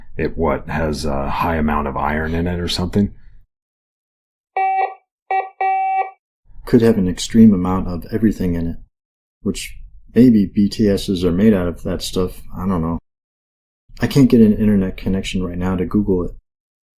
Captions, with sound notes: It what, has a high amount of iron in it or something? [beeping] Could have an extreme amount of everything in it. Which maybe BTS's are made out of that stuff. I don't know. I can't get an internet connection right now to Google it.